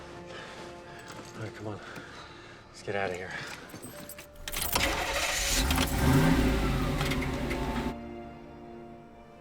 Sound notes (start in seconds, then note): 4.4 engine starts